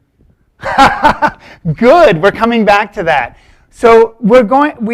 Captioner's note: laughs